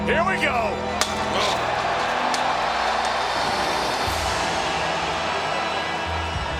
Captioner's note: door slamming